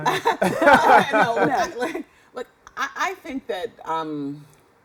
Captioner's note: laughter